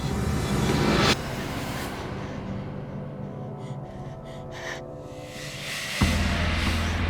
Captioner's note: Reenactment Cameron breathing heavily